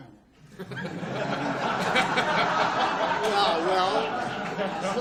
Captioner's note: audience laughs